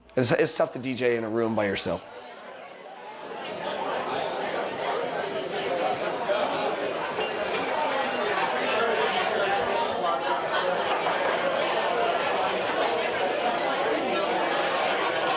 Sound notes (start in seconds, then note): 2.9 crowd partying